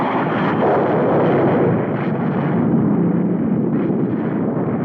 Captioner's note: explosion booming